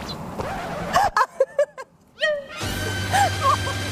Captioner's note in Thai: เสียงหัวเราะ